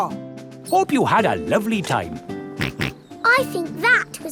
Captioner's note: snorts